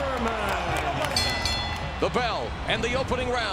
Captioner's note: bell dings